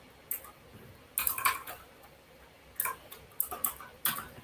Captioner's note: keyboard clacks